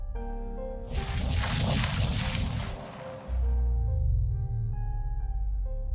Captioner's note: booming exploding